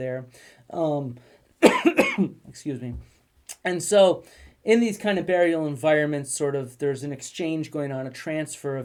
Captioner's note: cough